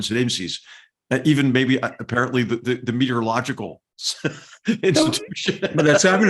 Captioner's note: laugh